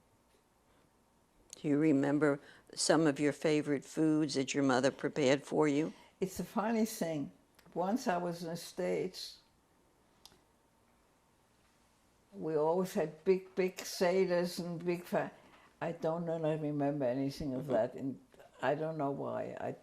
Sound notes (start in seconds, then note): 9.0 pauses for 3 seconds